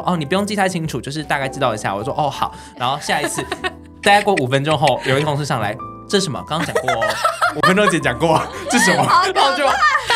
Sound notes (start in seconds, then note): 6.6 rough laughter